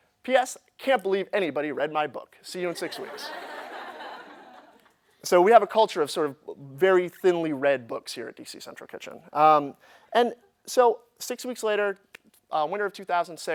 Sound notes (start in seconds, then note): 2.8 laughter